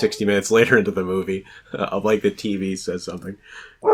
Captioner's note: dog barks